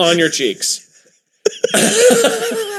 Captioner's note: both wheezing